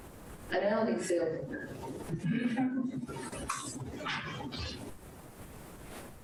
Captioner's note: crowd laughs